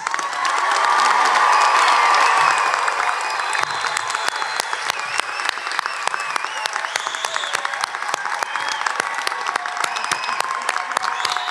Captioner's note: applause and cheers